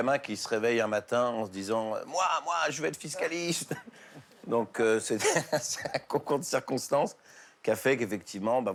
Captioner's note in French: rires